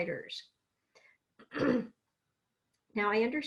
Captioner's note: clears throat